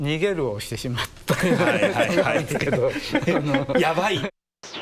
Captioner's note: laughs